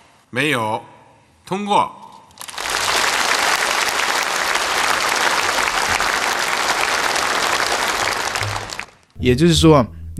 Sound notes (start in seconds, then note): 2.4 applause